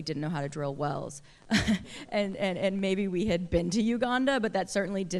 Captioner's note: laughter